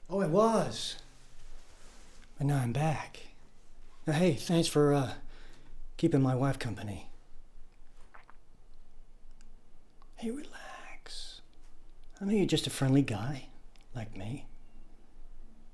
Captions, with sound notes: Oh I was but now I’m back. But hey thanks for er, keeping my wife company. (WOODY SWALLOWS) Hey relax. I know you’re just a friendly guy - like me.